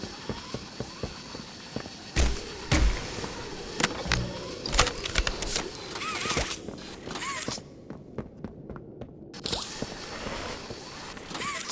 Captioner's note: gunshot